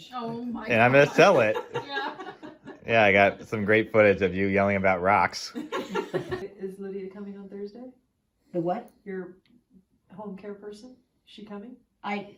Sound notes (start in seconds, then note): 5.5 laughter